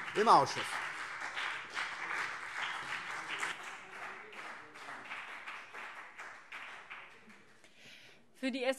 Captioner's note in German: Beifall BÜNDNIS 90/DIE GRÜNEN und vereinzelt CDU